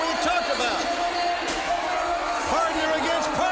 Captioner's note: crowd chatter